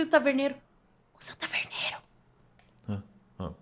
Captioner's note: whispering